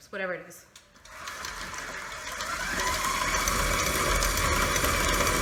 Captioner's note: mixer buzzing